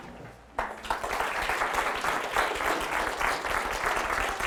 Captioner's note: audience applauding